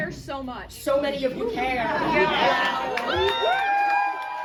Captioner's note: crowd cheers